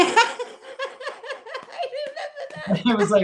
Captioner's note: laughing